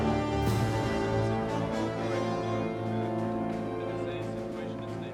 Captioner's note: all chatter